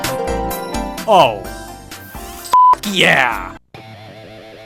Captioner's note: beep; guitar riff